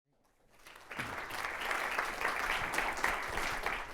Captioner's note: applause